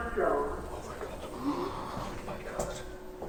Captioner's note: gasp